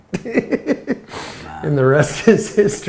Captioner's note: laughs